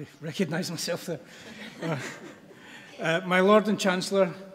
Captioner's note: audience laughs